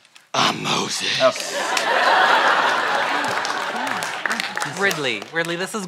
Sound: laughter

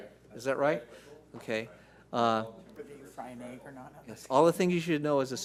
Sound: speaking faintly

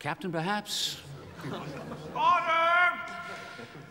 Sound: laughing

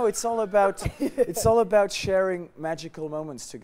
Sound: laughter

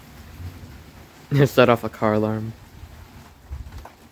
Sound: laughs

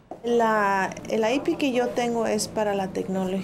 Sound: speaking Spanish

